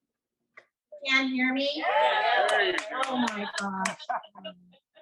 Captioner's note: crowd cheers